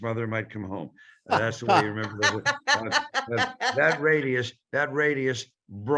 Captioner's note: laughing